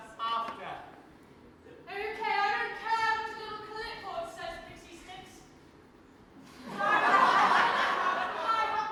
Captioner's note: audience laughs